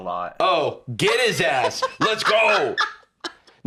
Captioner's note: laughs